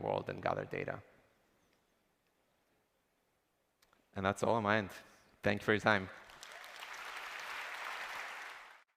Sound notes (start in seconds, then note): 6.1 applause